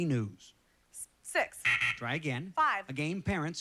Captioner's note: double buzzer